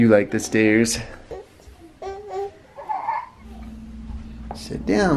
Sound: gurgles

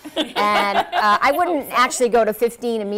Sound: laughter

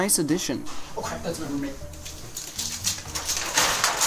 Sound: door opens

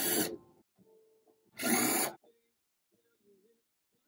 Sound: electric drill sound

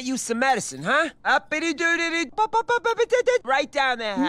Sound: Linda vocalizing

